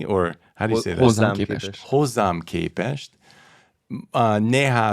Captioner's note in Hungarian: idegen nyelven beszélve